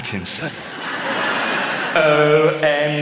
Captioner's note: laughter